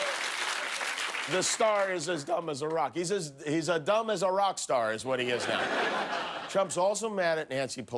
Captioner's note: cheers and applause